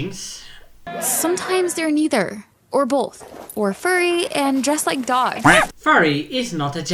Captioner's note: quack